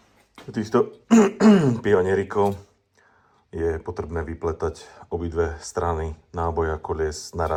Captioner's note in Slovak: odkašľanie